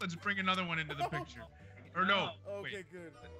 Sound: laugh

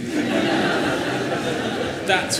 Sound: laughter

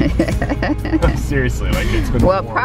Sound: laughing

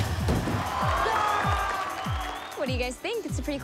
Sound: cheering

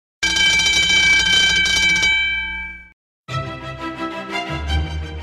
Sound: bell rings; upbeat music

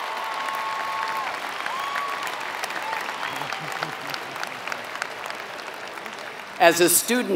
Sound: applause

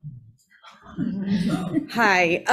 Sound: audience scattered laughing

